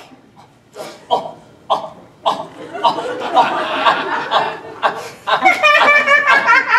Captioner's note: George laughs awkwardly